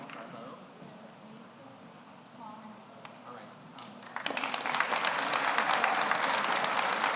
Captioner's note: audience applauds; speaking off mic